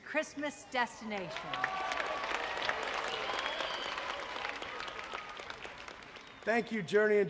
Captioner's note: audience cheering; audience applauding